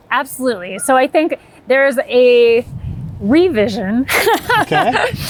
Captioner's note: laughing